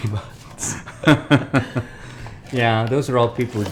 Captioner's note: laughing